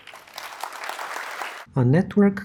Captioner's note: applause